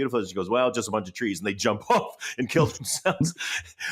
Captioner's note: chuckling